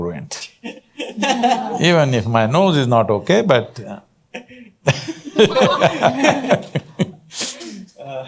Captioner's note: laughter